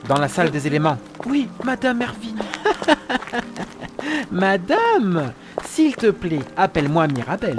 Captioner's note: laughs